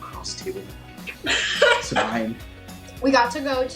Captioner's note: laughing